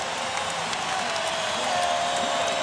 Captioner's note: crowd cheering